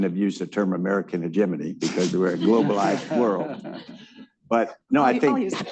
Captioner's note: laughter